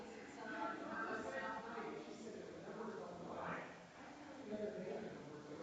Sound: people chattering distantly continues

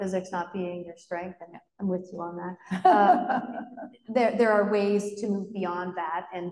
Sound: laughs

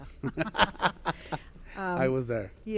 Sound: laughing

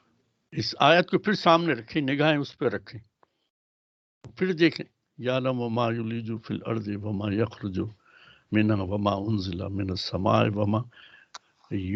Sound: recites arabic

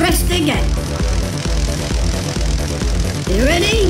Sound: crackling electricity restarts

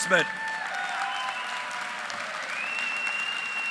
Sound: applause

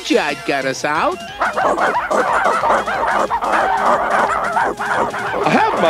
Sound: barking

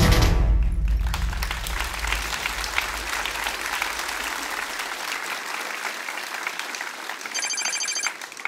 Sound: applause; phone ringing

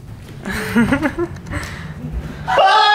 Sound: Hila laughing

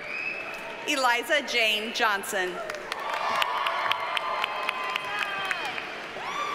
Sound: audience cheers and applauds

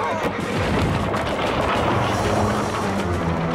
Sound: thud

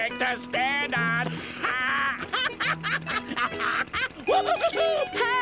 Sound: laughing

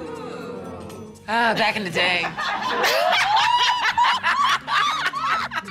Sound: laughter

